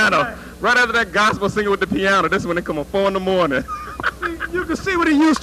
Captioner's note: laughter